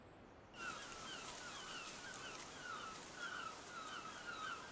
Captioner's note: birds squawking